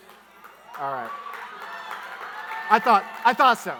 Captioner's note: audience cheering